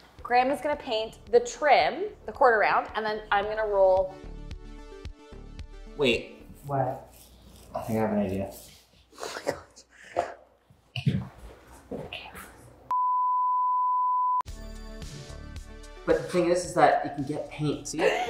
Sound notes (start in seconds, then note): 4.3 upbeat music; 13.0 monitor beeping; 13.8 upbeat music